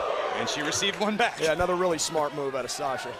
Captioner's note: crowd cheering